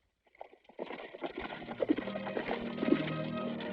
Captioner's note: horses trotting